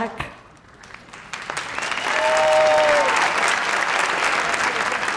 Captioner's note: crowd applauding